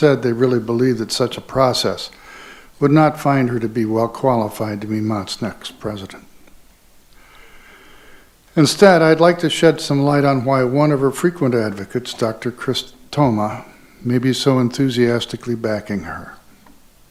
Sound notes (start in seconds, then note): none